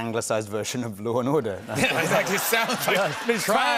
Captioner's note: laughter